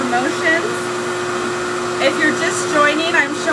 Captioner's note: hair dryer whirs continues